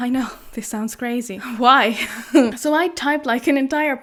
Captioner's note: laughs